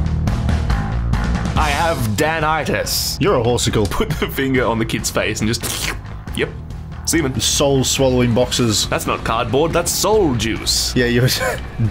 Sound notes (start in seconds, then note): 5.6 slurp; 11.4 laughs